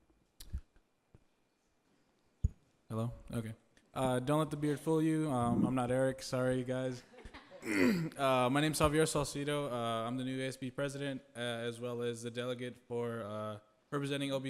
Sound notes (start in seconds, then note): 7.0 group laughs; 7.6 clears throat